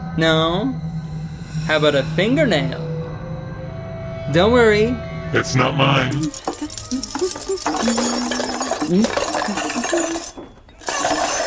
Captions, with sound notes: No? How about a fingernail? (light humming) Don't worry, it's not mine. (metal jingling) (metal clanging)